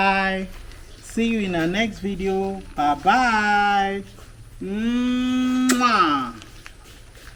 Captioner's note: kisses